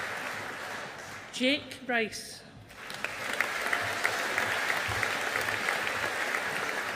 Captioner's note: audience applauding